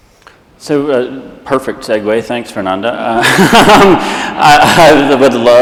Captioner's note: laughs